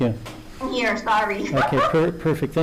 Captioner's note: chuckles